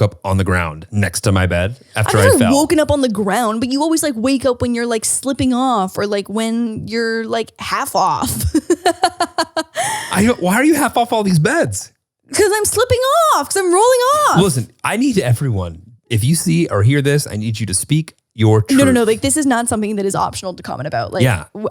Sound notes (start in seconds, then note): 8.3 laughs